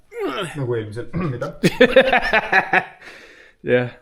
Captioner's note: coughs